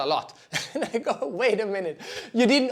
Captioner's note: laughs